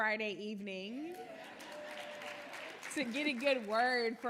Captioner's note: audience applauding